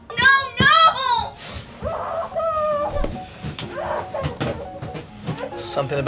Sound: crying loudly

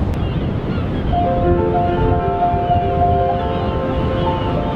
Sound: seagulls crying

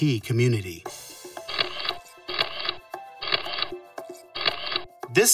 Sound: snapshot noises

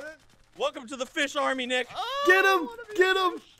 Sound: screams

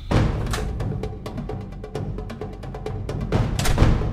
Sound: door creaks

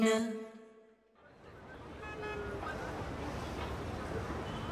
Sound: traffic clamoring

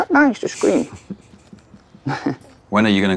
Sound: laughs

